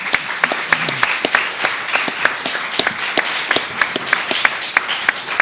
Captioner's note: applause